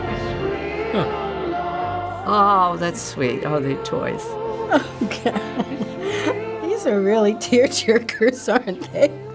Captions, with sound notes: - Heh. - Oh, that's sweet. Oh, they're toys. - (giggling) Oh god. These are really tear-jerkers, aren't they?